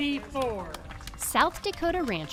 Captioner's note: crowd clapping